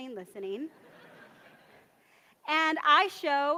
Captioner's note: audience laughs